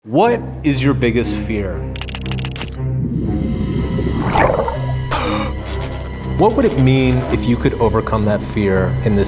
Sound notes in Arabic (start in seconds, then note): 2.0 نقر الكاميرا